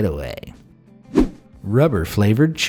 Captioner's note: air whooshing